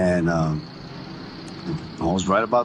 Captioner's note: bus revving engine